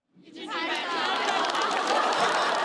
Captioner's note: keep clapping